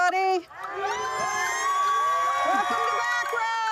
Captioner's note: cheering